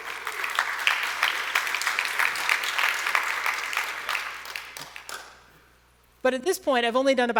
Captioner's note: applause